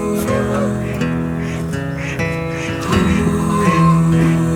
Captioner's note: ducks quacking